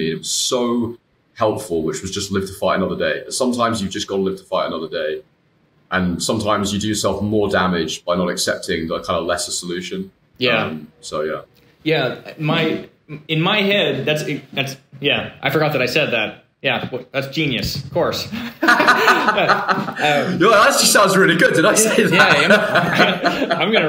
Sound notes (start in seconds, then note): 18.3 both laughing; 23.3 laughing